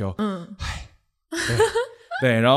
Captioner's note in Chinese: 嘆氣